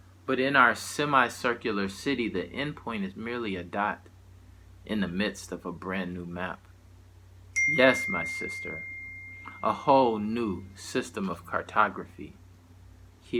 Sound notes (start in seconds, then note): 7.5 bell dinging